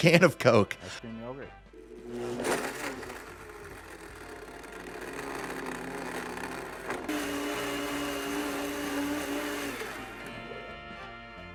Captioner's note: repulsive Noises and Gagging